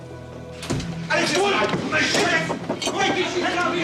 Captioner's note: shouting in German